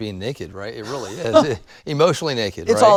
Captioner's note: chuckles